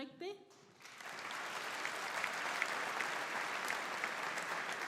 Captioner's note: audience applauding